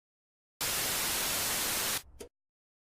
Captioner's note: television static